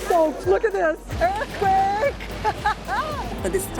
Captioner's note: laughs